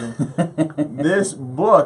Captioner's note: laughs